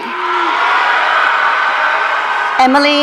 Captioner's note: audience cheering